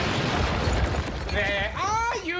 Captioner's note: loud crash